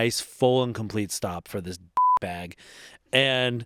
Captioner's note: beep